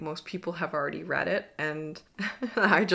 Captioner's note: chuckles